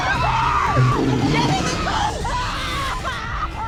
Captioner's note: growling